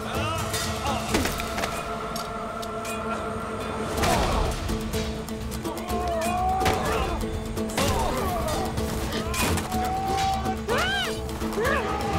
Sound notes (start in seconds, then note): 7.9 Kılıç sesleri